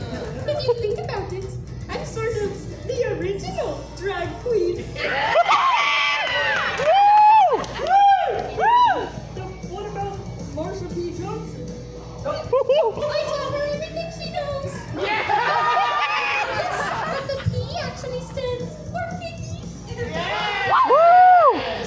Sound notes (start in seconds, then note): 0.0 Miss Piggy giggles; 5.0 hooting and hollering from crowd